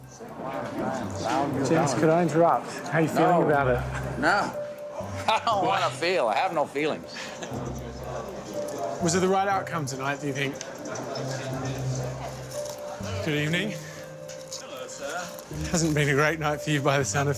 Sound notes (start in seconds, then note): 7.1 laughs